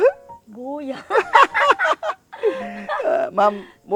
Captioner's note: both laughing